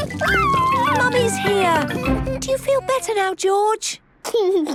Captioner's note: George crying